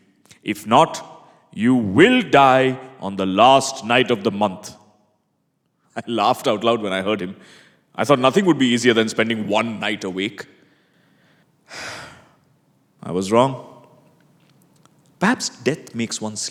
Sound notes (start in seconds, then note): 11.7 sighs